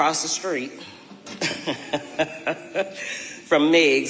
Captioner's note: laughing